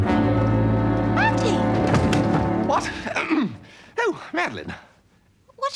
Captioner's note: clears throat